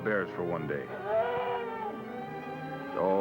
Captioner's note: growls